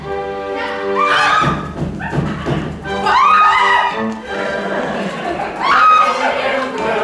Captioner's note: Shrieking from the FOOD BUGS, cackling from KATISHA; more shrieking